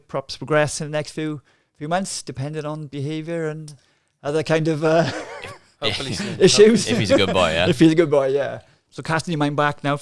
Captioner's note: laughing